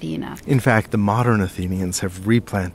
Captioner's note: voiceover